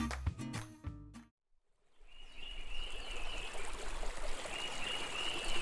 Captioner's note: birds chirping and water flowing